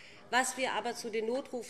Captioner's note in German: none